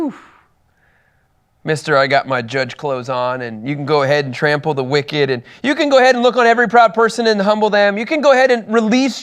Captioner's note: sarcastically